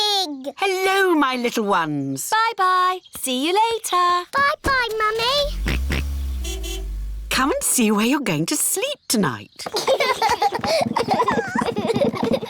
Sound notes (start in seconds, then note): 5.3 car horn honks; 5.7 george oinks; 9.6 children laugh